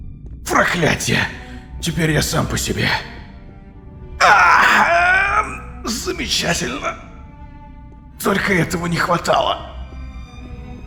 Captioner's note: says gritting his teeth